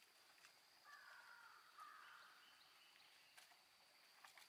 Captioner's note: crows cawing